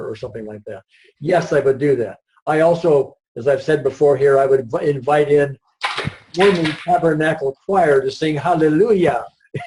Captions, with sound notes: or something like that. Yes, I would do that. I also, as I have said before, I would invite in Mormon Tabernacle Choir to sing Hallelujah. (laughs)